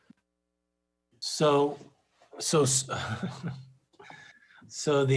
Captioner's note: laughs